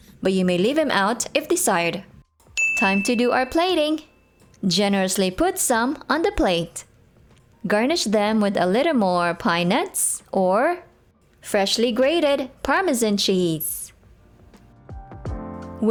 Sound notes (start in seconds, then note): 2.5 timer ding